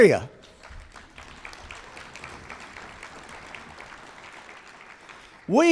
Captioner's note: applause